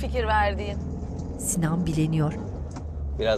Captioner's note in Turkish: Araba sesi